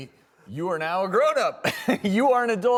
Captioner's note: laughs